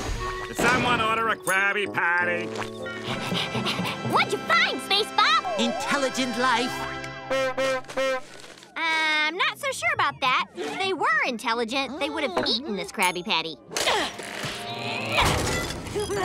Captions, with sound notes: Did someone order a Krabby Patty? What'd you find SpaceBob? -Intelligent life. [honking horn] Um, not so sure about that. If they were intelligent, they would have eaten this Krabby Patty. [grunting]